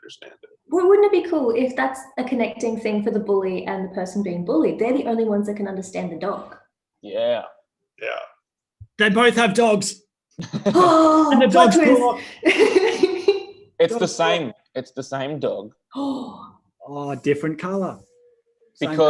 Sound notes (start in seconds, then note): 10.4 laughs